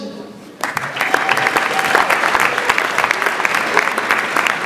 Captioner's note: audience applauds